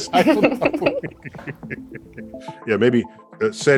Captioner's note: both laughing